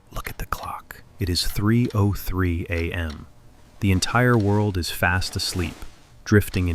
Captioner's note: whispers